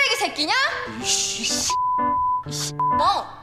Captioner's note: cursing